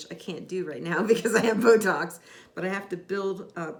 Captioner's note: laughs